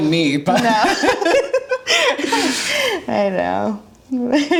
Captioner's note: laughing